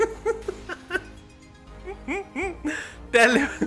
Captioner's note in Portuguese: risos